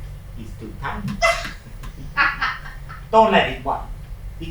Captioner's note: laughs